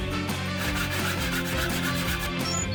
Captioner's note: saw whirring